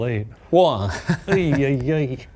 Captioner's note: laughing